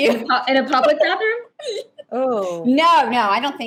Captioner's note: laughing